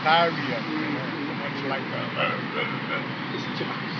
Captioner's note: growling